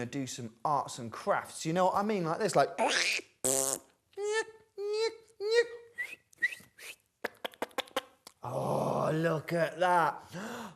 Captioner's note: silly noises